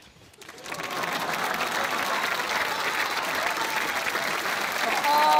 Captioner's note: applause